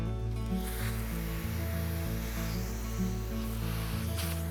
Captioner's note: mellow music; air wooshing